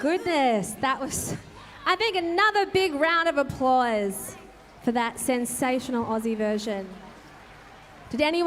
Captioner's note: applause